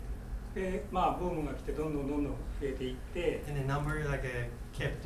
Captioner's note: speaking in foreign language